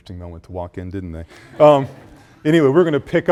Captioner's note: students laugh